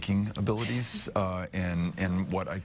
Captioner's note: chuckling